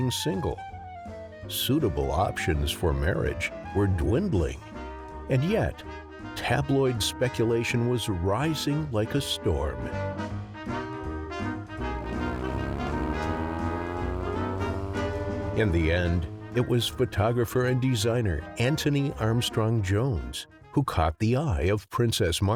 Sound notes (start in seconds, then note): 9.1 classical jazz music; 11.6 motorcycle engine roaring